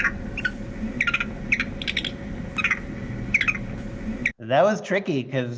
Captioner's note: video plays with sound of a monkey